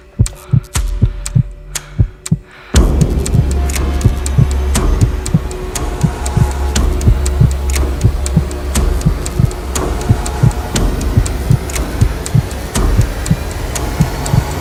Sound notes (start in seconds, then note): 3.1 foreboding music; 3.1 heart beating